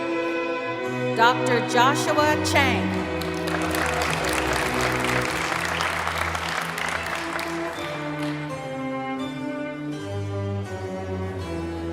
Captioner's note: applause and music